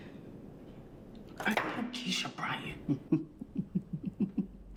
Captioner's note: laughing